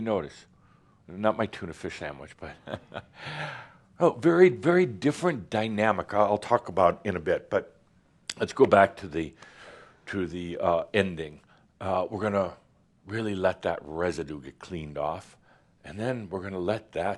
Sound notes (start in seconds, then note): 2.5 Adamus chuckles